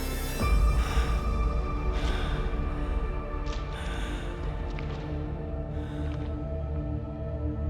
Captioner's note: ominous music; labored breathing